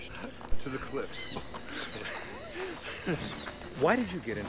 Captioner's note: birds chirping